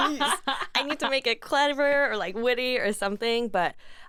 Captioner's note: laughs